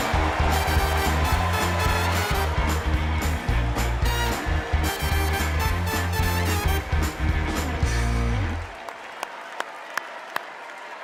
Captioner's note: cheers and applause